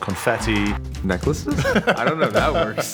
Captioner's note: laughing